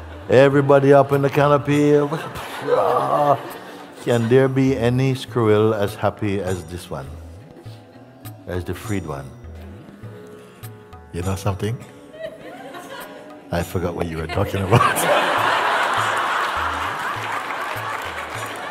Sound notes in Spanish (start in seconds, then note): 14.5 risas